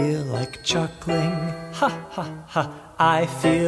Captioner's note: ha ha ha